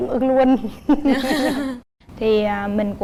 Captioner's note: laughing